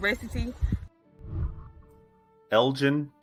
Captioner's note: whooshing